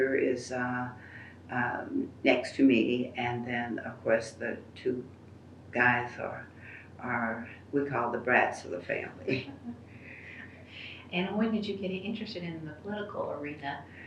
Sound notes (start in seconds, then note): 9.3 laughter